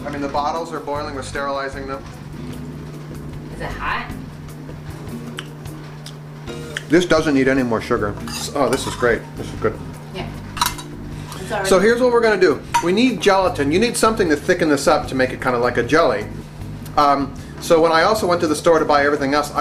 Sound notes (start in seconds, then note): 5.3 lips smacking